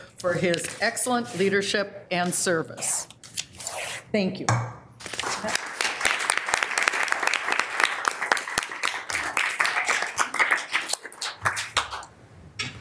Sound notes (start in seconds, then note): 5.2 audience applauding